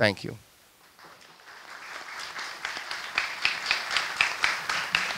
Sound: audience applauds

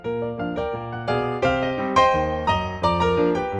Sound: none

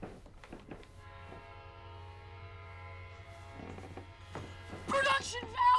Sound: train whistling

